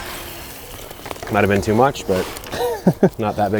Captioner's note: chuckling